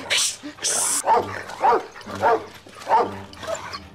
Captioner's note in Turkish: Köpek havlama sesi